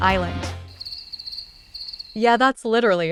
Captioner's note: crickets chirping